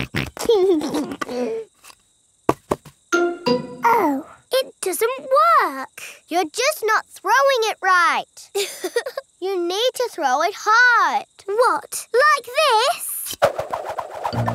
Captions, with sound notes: (SNORTS AND LAUGHS) Oh. It doesn't work. You're just not throwing it right. (CHUCKLES) You need to throw it hard! What, like this?